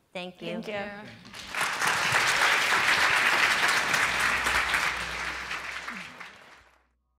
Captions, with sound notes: Thank you. Thank you. [APPLAUSE]